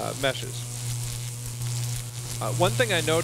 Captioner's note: electricity buzzing